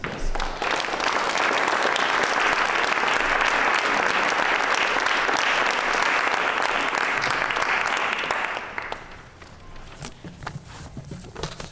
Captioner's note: applause